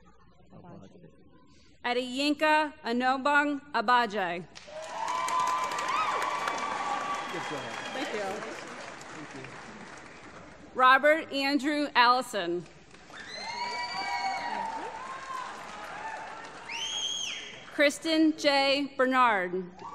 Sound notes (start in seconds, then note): 4.6 applause; 12.6 applause